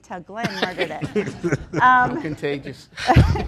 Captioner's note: laughter